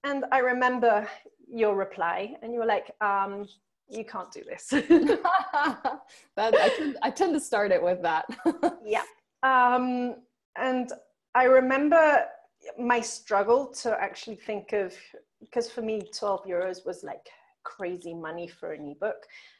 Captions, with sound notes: I remember your reply and you were like, you can't do this (both laughing). - I tend to start it with that. - I remember my struggle to actually think of 'cos for me 12 euros was like crazy money for an ebook.